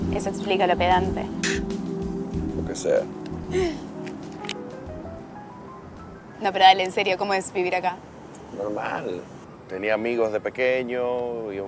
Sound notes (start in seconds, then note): 1.2 scoffing; 3.5 laughing; 4.4 soft Music Playing